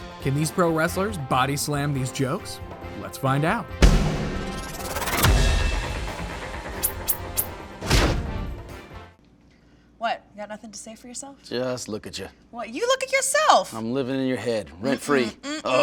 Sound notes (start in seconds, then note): 3.9 whirring sound